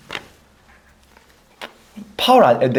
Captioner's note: silence for a moment